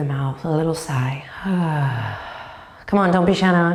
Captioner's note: sighs